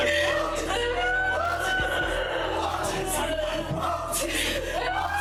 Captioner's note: sobbing